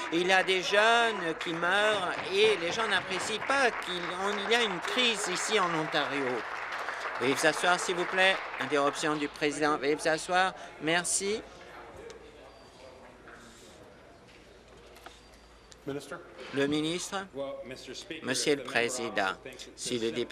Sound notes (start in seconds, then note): 6.2 applause; 8.9 applause